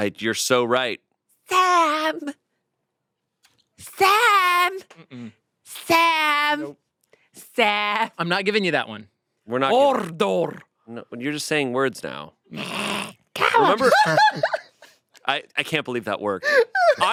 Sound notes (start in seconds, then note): 12.5 growls; 13.6 laughs